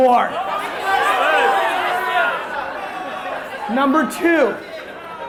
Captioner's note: crowd yelling